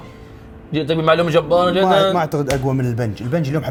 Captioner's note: laughs